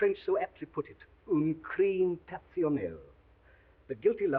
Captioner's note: speaking foreign language